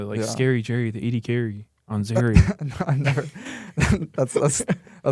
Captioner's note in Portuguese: risos